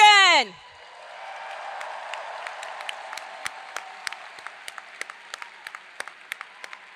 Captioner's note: audience applauds; hands clapping